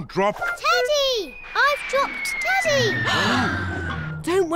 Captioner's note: all gasp